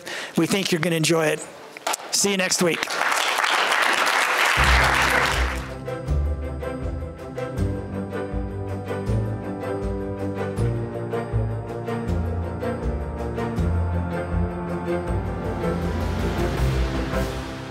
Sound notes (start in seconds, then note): 1.8 applause; 4.5 audio logo